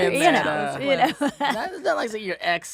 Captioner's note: laughing